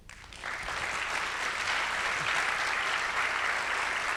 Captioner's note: audience clapping